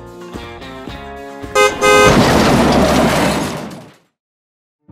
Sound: car beeps then crashes

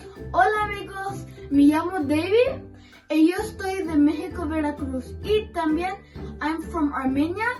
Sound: speaking Spanish

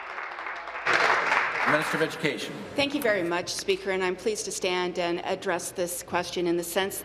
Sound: applause

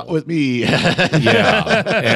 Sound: laughing

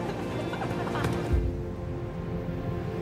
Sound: group laughing; soccer ball being kicked; gentle music

